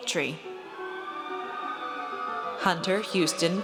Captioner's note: audience cheers